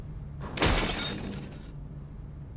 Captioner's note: glass Breaking